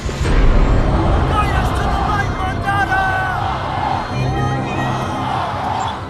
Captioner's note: chants of protest